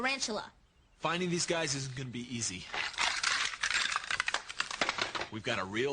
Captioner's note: clatters